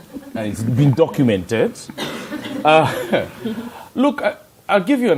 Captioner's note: laughter